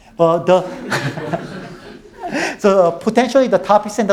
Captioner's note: all laughing